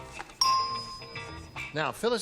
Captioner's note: pinging